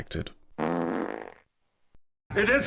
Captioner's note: fart noise